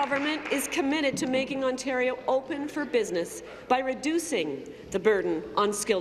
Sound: applause

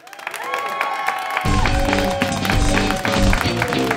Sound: applause

